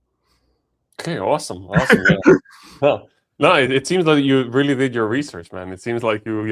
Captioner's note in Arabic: ضحك